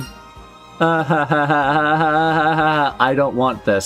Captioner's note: awkward laughter